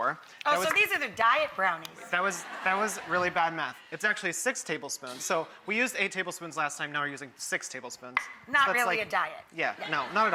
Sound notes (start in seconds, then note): 2.2 people in audience chuckling